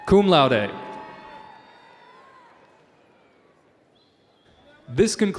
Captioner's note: audience cheering